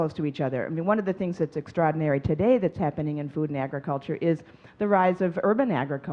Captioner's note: none